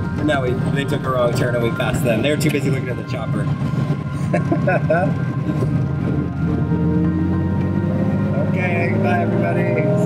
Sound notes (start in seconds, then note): 4.3 laughing